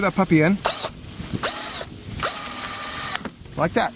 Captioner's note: drilling